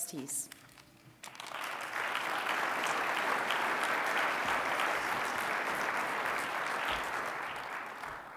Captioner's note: applause